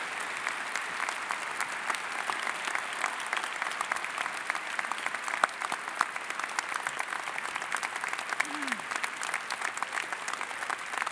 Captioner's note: applause